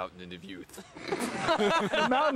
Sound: laughter

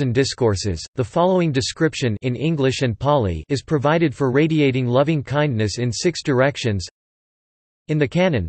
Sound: in English and Pāli

